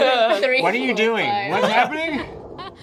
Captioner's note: laughter